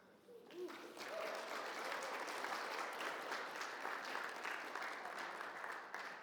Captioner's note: audience applauds and cheers